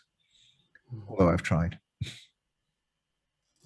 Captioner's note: chuckles